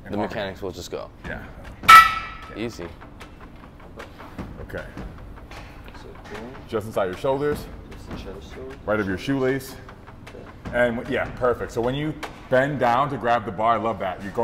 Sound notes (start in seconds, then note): 1.8 plates clanging